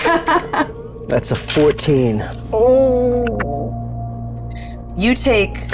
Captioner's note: groans